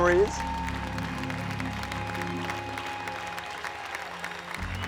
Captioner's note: audience applauding